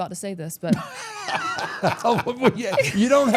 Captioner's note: all laughing